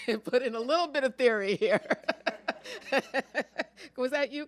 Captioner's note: laughter